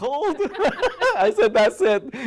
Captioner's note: laughter